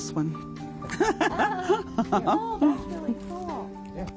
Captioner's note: laughing